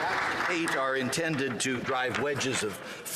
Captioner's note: some Applause